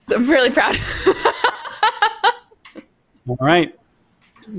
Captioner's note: laughing